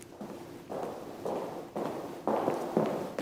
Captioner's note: footsteps